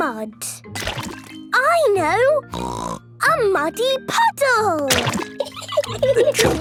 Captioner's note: laughing